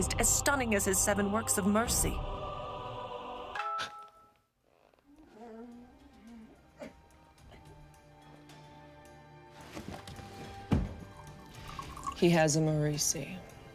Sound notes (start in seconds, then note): 3.9 phone chimes; 5.3 Zora coughing; 9.6 Ava scuffles; 11.4 vodka pours